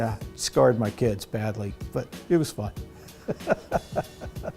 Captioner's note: laughter